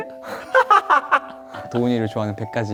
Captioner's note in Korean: 폭소